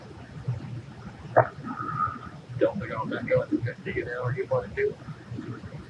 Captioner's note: radio